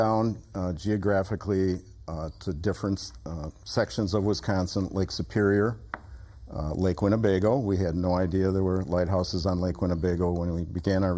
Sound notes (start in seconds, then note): none